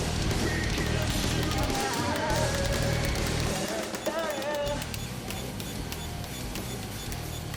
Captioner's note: drumming with pens; beeping